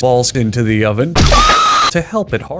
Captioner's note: fleshy crunch, screaming